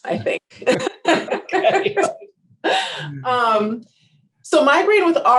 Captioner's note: both laughing